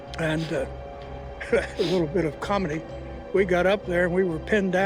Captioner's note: chuckles